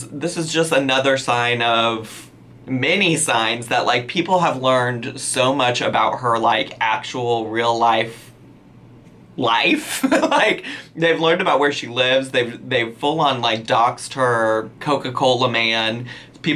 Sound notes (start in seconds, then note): 9.8 laughs